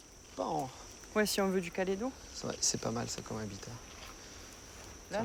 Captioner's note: speaking foreign language